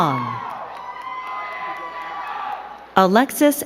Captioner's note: crowd cheering and clapping